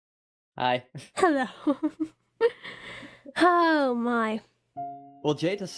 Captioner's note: giggles